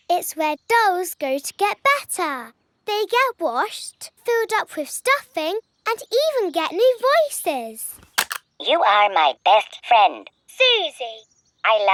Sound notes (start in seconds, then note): none